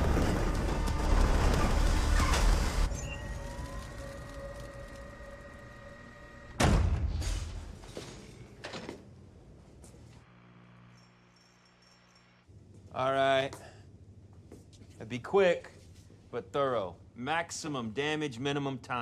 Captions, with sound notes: (soft electronic whirring) All right. Now, be quick but thorough. Maximum damage, minimum time.